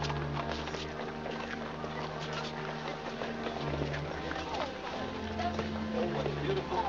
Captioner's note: hooves trotting; organ plays; indistinct conversation